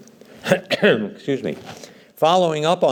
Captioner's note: coughs